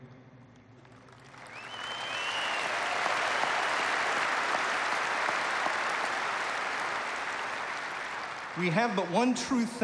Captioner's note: applause